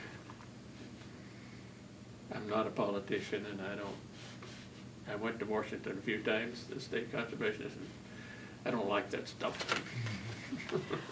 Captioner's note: laughs